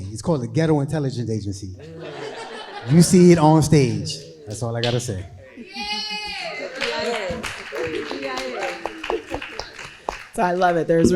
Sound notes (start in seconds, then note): 1.8 crowd laughing; 7.5 crowd applauding